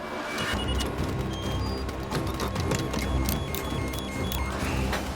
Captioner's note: beeping